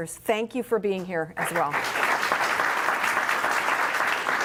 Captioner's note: applause